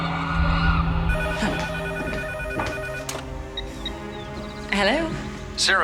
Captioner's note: phone ringing